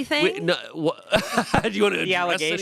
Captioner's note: laughs